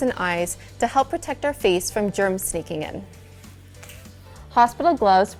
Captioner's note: finger snap